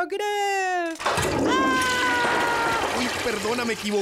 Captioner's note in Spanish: Suena como cadena del WC